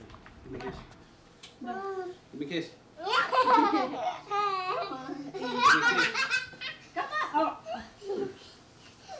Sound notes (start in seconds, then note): 3.2 laughs